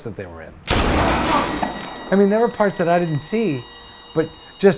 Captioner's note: gun shot, high pitch noise